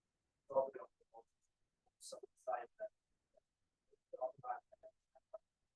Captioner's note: speaking faintly